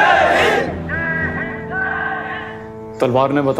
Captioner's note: Crowd